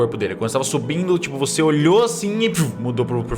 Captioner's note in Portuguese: pff